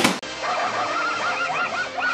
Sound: barking

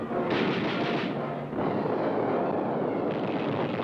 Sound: guns firing

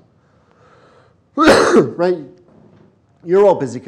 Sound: sneezes

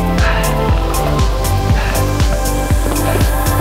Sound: heavy breathing

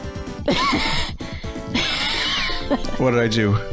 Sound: laughs

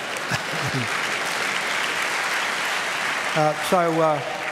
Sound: applause

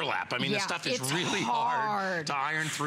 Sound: coughing

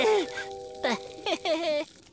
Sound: chuckles nervously

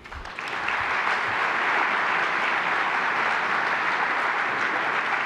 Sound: applause

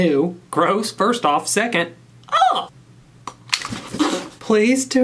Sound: disgusted noise

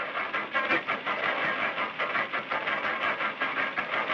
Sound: cranking

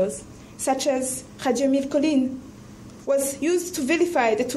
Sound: speaks in foreign language

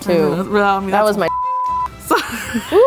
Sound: beep; laughing

